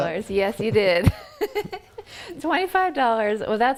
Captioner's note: chuckles